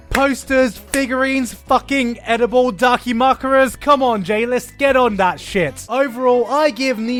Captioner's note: interspersed with clapping